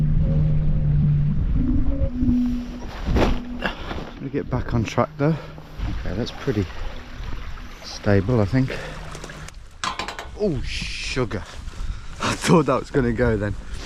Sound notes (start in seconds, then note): 9.7 metal creaks